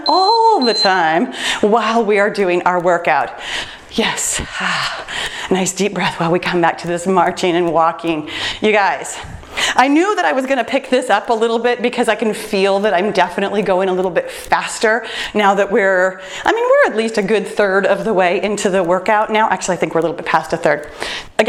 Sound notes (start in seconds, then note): 0.0 timer beeps; 3.4 breathes